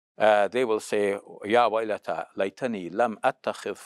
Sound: speaks Arabic

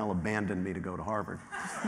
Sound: laughter

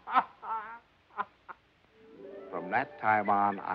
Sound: laughing

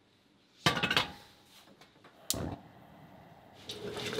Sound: pot clanking

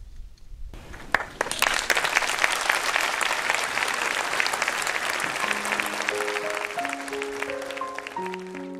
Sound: applause

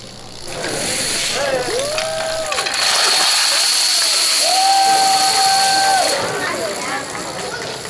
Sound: applause

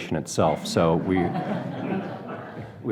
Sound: audience laughs

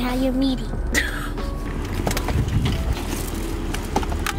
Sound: laughs

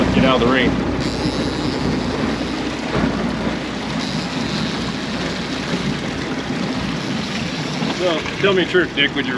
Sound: reel cranking

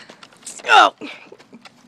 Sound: grunting

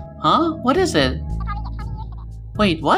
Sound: chatter

